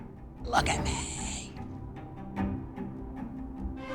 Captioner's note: quietly intense